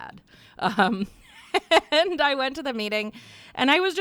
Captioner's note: chuckles